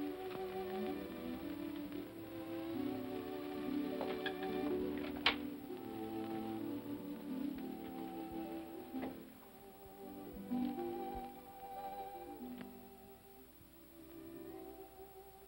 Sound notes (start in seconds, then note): 0.2 sentimental music; 3.9 door opens; 6.8 sentimental music